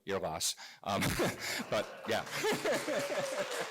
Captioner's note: laugh; applause